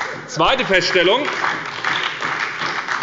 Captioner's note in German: Beifall bei der SPD